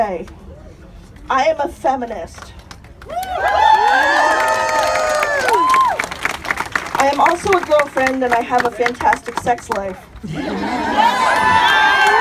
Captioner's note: applause